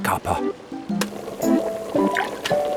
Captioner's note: button clicks; tea bag plops